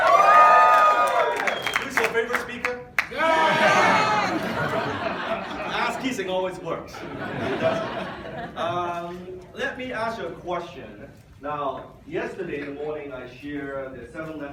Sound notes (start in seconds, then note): 0.0 audience cheers and applauds; 3.3 audience laughs